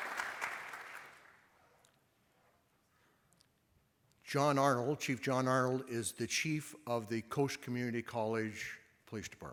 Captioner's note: applause